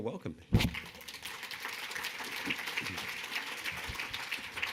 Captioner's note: audience clapping